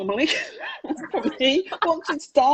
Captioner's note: laughs